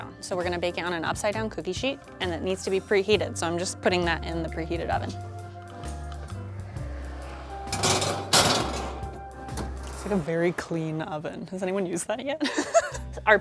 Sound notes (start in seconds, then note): 7.9 metal rattling; 12.4 chuckles